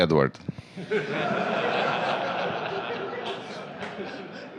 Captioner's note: laughter